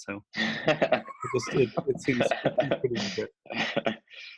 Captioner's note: all laughing